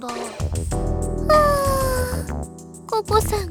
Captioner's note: sigh